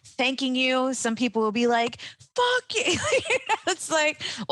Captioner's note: laughs